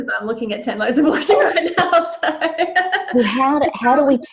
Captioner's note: laughs